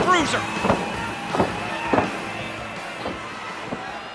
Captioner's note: crowd cheering